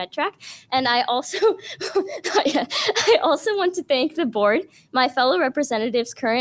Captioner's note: laughs